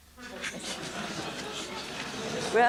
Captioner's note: laughter